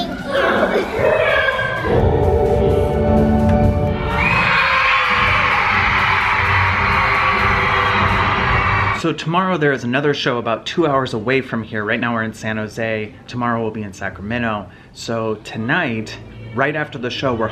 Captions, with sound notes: - Thank you. (piano music) (audience cheering) So tomorrow there is another show about two hours away from here. Right now we're in San Jose, tomorrow we'll be in Sacramento. So tonight, right after the show,